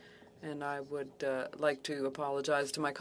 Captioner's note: speaking French